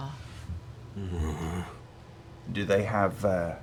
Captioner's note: negative grunt